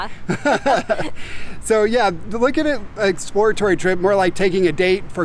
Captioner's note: chuckling